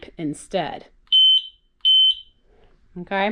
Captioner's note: beep beep